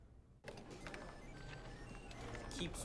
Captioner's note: computers beeping